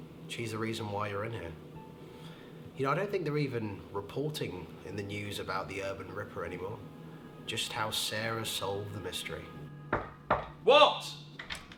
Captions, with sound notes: She's the reason why you're in here. (eerie piano music) Ya know, I don't think they're even reporting in the news about the Urban Ripper anymore, just how Sarah solved the mystery. (knocking) - What!